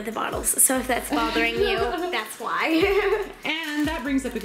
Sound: laughing

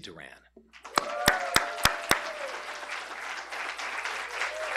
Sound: cheers and applause

